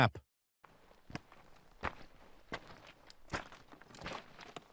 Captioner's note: shoes shuffling